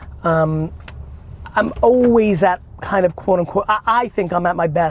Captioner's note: none